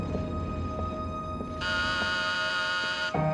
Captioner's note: door bell buzzing